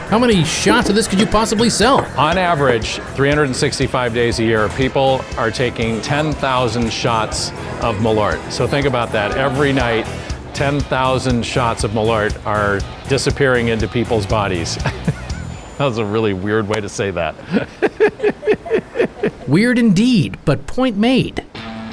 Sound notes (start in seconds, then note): 13.6 chuckles; 17.2 laughs